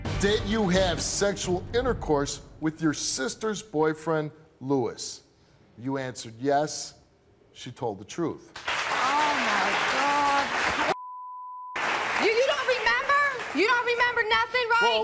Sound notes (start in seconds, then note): 8.5 audience applauds; 10.9 beep